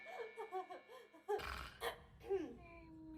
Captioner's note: giggling; throat clearing; snoring